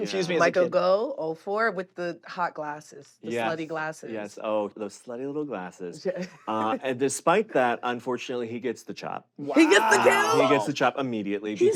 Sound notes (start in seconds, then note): 5.7 chuckles